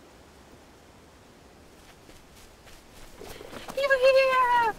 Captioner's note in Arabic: نسيم عليل; خطوات تجري تقترب